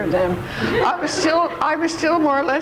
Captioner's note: audience laughs